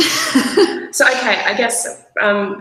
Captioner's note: laughs